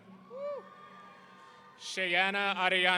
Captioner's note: audience cheering